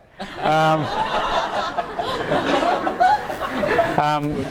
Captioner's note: audience laughs